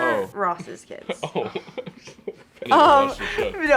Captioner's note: laughs